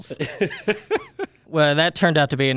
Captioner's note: laughs